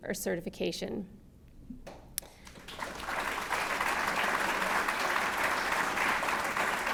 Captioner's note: applause